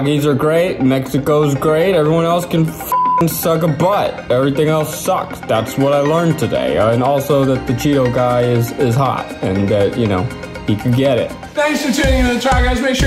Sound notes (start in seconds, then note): 2.8 beep